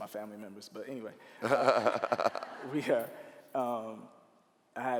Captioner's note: laughing